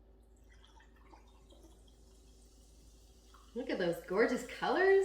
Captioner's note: drink fizzing